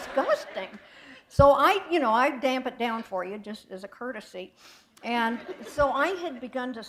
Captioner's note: laughter